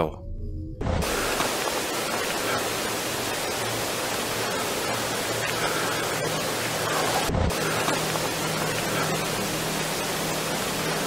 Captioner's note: barely audible footsteps - augmented audio